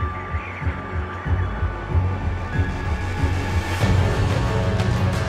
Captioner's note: wind howling